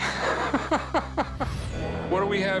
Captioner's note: laughs